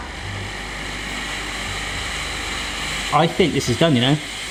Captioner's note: steamer hisses and whirs